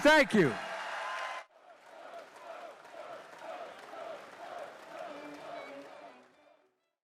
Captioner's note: applause